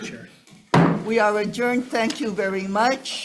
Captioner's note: hammering gavel